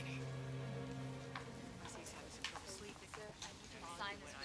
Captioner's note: chattering